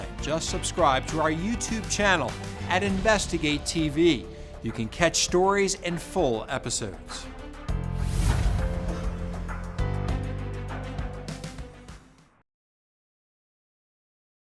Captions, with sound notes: Just subscribe to our YouTube channel at InvestigateTV. You can catch stories in full episodes. (logo whooshes) (dramatic music fades)